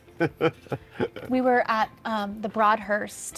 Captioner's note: laughing